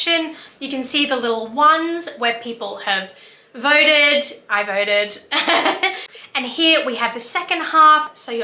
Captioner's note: laughs